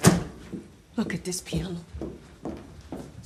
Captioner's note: footsteps thudding